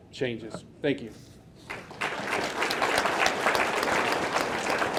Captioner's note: audience clapping